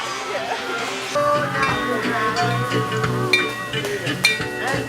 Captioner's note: bell ringing